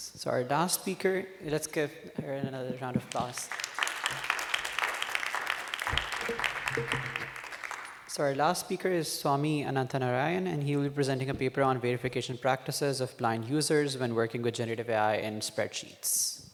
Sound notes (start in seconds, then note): 2.9 applause